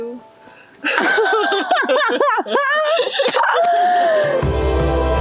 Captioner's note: laughs